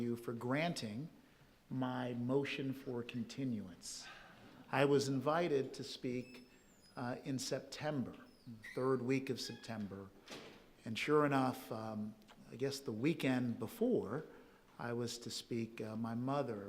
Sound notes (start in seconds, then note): 8.0 door creaking